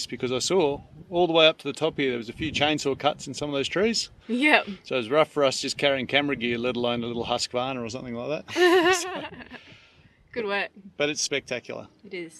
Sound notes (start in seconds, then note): 8.5 laughs